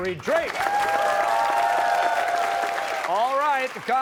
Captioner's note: cheers and applause